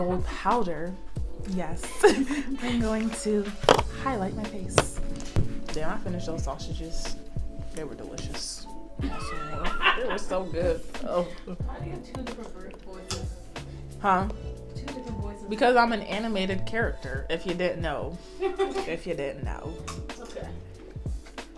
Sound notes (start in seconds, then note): 1.8 laughter; 9.0 laughter; 18.4 laughter